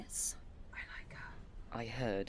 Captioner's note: she fake-whispers